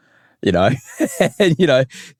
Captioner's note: laughs